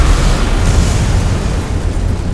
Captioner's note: boom